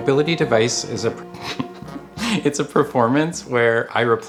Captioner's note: chuckles